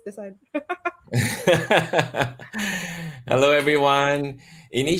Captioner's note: laughter